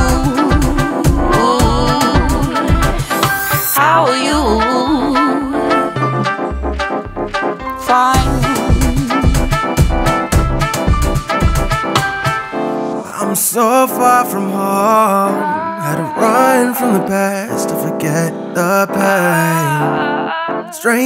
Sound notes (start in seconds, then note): 15.2 ohh